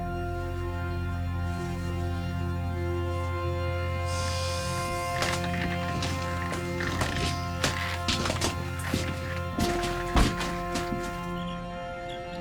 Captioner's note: snorts